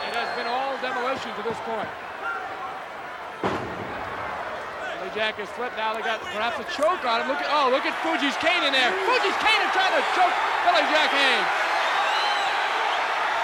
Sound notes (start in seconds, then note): 3.9 body thuds